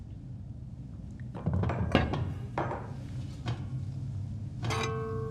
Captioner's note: crockery clattering